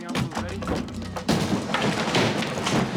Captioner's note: loud thump